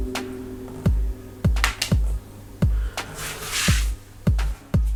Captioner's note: snaps; card hits floor; calm hip hop music